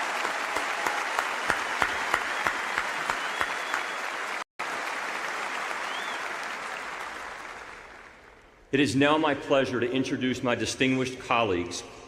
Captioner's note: applause